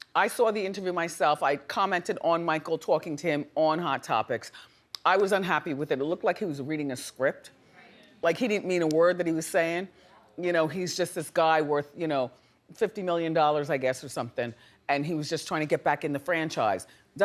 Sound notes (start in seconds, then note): none